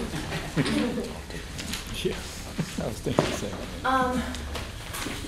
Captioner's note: laughter